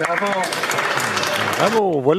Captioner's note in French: applaudissements